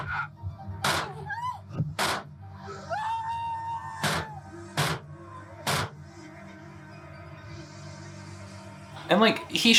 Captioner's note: Wayne's Uncle and Mother yelling, gunshots